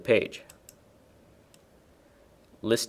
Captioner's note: mouse clicking